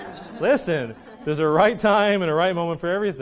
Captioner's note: laughing